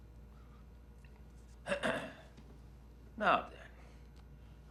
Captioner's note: Burgess clears throat